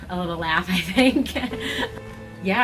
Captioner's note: laughs gently